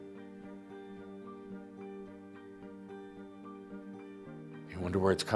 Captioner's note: none